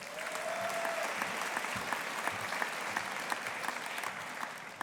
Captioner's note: audience applauding